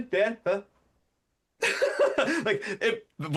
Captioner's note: laughs